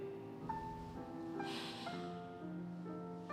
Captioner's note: sighs